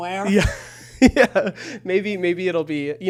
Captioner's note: chuckles